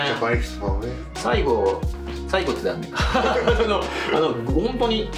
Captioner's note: laughs